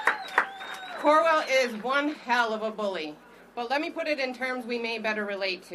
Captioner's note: applause